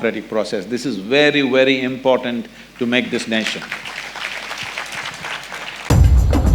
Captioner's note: applause